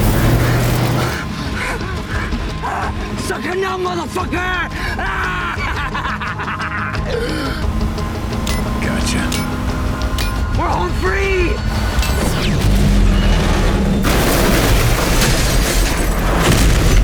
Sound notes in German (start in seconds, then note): 12.1 Explosion